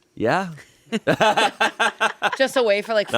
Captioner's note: everyone laughs